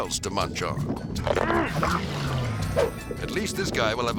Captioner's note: bite crunches; diver grunts